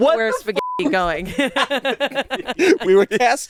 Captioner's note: beep